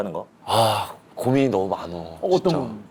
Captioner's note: deep sigh